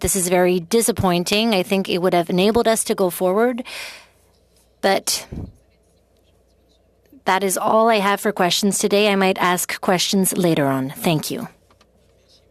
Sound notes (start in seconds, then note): 4.2 speaking french